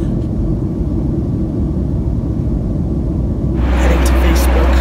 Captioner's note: jet engine